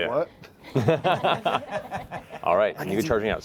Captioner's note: laughter